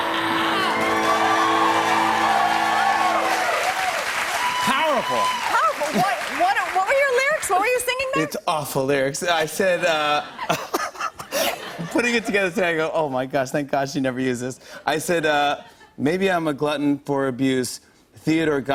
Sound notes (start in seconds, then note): 0.0 cheers and applause; 10.2 laughs